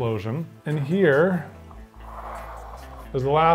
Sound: canvas scrapes

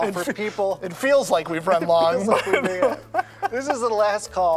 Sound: laughing

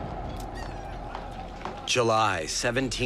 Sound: seagull caws

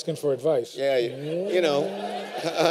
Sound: laughter

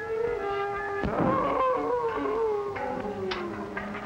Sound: yells

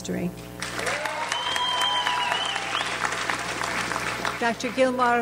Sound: audience applauds

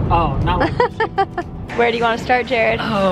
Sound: laughs

